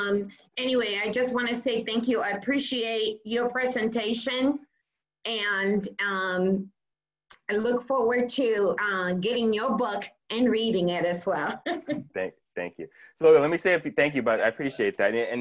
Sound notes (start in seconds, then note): 11.4 laughs